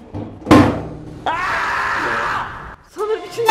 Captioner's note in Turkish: çiğlik sesi̇